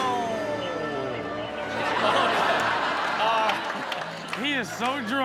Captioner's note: audience laughs